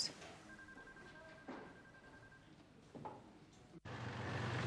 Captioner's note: phone ringing; car engine revving